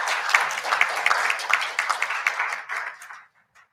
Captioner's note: applause